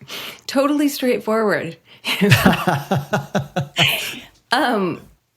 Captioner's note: both laughing